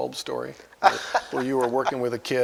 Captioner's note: laughs